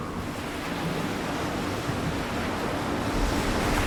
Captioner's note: waves lapping